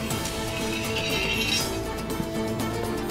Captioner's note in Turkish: Kılıç çekme sesi